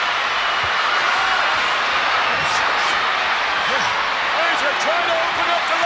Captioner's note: crowd cheering continues